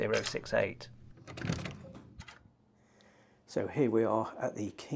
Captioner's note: door latch clicking